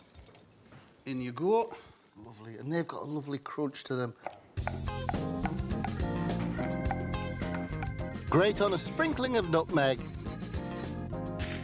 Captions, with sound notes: In you go. Lovely. And they've got a lovely crunch to them. (upbeat music) (knife thumping) Grate on a sprinkling of nutmeg.